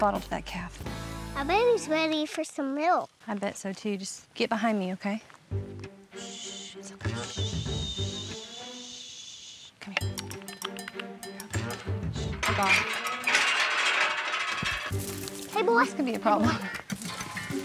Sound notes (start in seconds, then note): 10.6 calling; 12.3 gate rattling